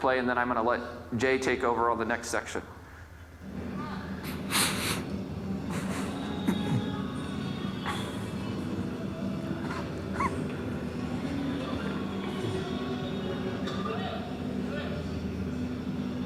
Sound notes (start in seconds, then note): 5.7 radio playing; 5.7 generator humming